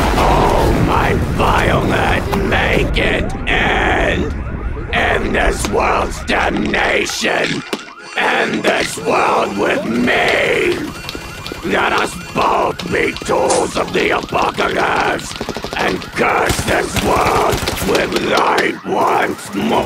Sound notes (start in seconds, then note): 0.1 car alarms; 12.8 misc. gunfire; 16.5 car alarms